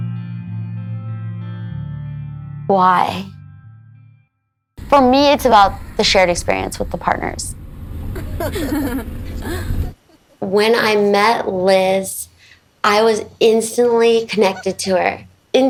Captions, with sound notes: Why? For me, it's about the shared experience with the partners. (laughs) When I met Liz, I was instantly connected to her.